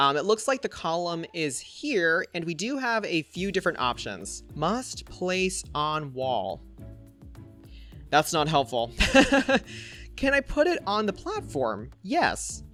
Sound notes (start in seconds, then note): 9.0 laughs